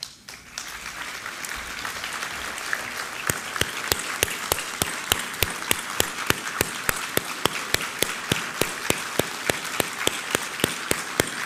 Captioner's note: applause